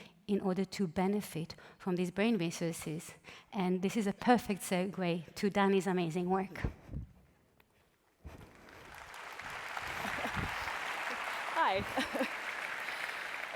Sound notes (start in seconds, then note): 8.5 applause